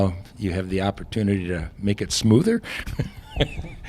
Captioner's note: haha